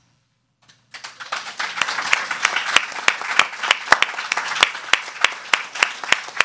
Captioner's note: audience clapping